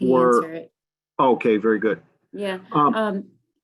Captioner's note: murmurs